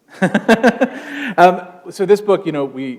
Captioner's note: laughter